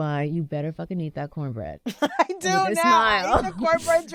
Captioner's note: laughter